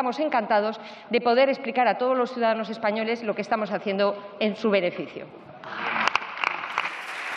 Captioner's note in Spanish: Aplausos